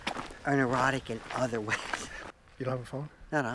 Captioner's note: laughs